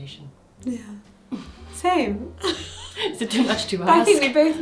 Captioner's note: laughs